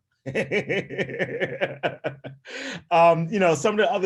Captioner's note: laughing